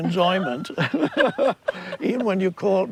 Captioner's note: both laugh